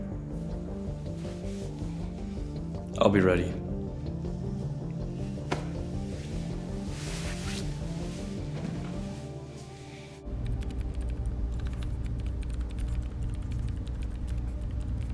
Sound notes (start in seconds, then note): 0.2 tense music; 4.9 tense music; 11.5 computer keys tapping